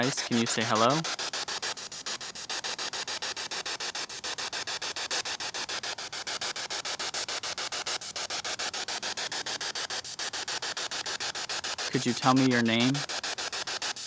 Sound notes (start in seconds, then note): 1.8 static hissing